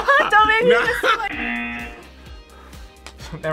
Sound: laughs; buzzer

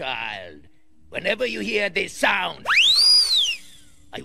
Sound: party whistle

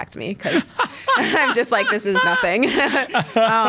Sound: both laugh

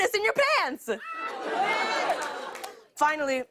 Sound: laughter

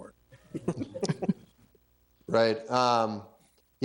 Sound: room chuckling

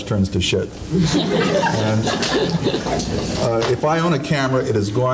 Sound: audience laughing

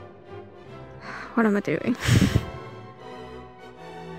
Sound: sigh

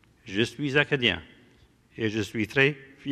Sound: speaking french

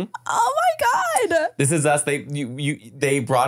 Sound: foreign language

